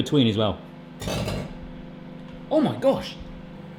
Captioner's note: microwave buzzes and pops